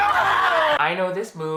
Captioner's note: Duke and Sebastian laughing; Duke and Sebastian screaming